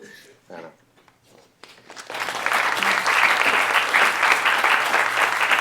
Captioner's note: applause